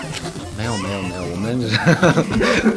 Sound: laugh

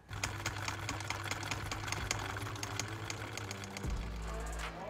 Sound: film reel clicking

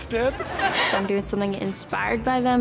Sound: audience laughs

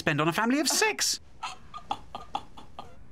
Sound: laughing

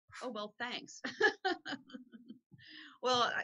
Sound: laughs gently

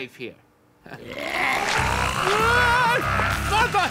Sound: growling

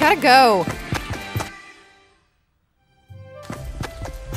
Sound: footsteps tapping; upbeat calm music

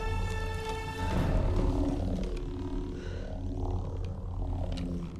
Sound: labored breaths

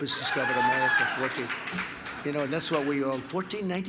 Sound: applause

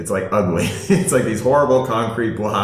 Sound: laughing

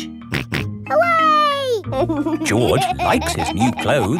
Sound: snorts and laughs

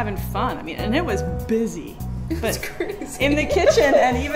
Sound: laughter

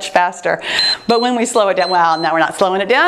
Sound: timer beeps

